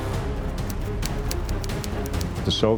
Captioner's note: typewriter clicking